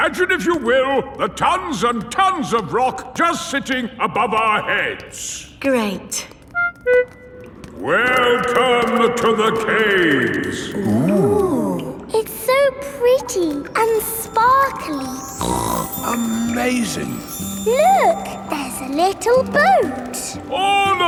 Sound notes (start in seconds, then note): 15.3 snorts